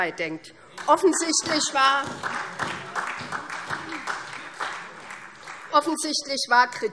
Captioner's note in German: Beifall SPD